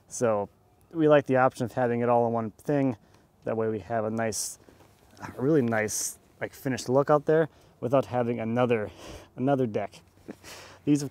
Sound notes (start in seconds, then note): none